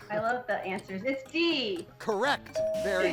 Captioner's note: tone chimes